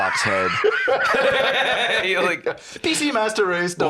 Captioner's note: both laughing